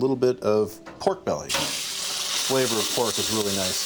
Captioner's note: loud sizzle